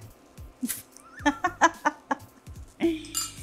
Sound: laughs

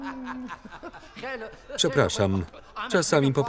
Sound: laughing; speaking Farsi

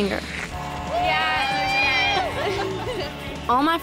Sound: cheering

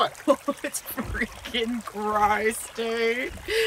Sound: laughs

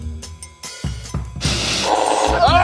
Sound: jazzy percussion; sizzling; machine whirring; man screaming

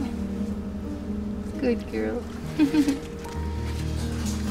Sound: laughter

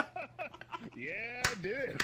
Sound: laughs

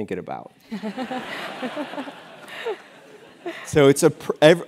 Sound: laugh

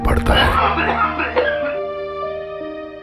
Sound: coughing

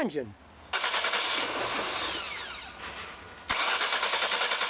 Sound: engine cranking

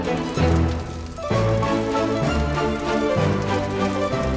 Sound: fire crackling

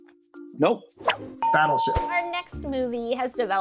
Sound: bell rings

